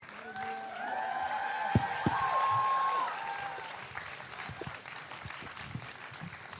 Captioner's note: audience applauding